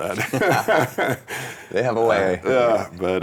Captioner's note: laughing